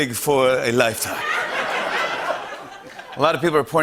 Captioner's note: laughter